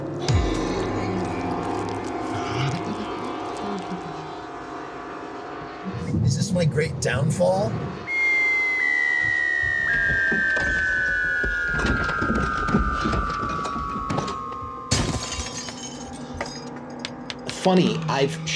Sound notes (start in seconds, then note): 8.0 falling down stairs; 14.9 deadly impactful crash with broken glass